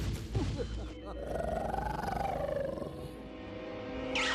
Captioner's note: growling